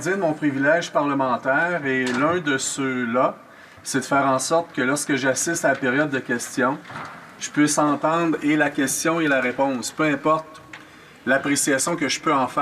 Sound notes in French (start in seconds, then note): 1.6 voix de l'interprète